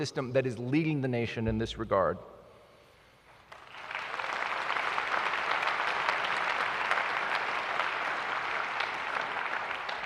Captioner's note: applause